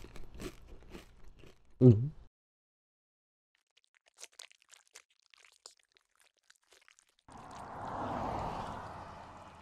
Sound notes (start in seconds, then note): 0.1 swallows; 4.1 slithering